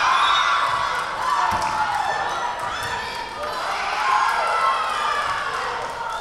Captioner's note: Lions cheering; whistle blowing